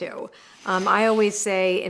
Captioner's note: air whooshing